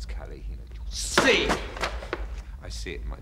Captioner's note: book thudding